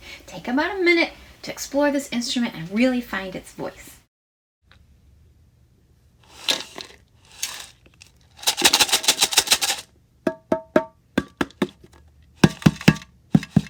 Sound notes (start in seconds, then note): 6.2 beads shaking; 10.2 drum beating